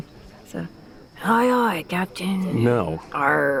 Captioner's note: imitating pirate